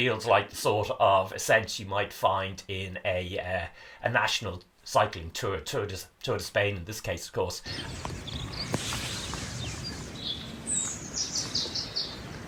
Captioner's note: birdsong